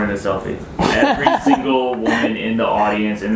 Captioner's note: laughing